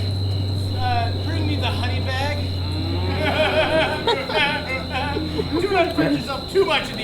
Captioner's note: laughs